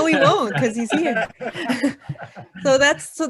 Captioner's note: laughing